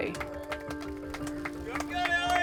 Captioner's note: cheering